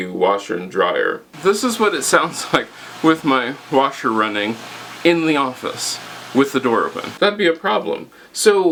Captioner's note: washer and dryer noise